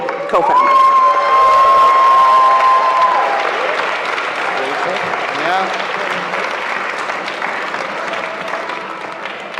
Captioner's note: cheering